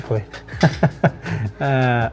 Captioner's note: laughing